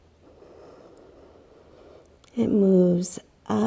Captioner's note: deeply exhales